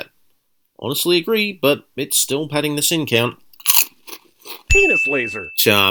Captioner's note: crunch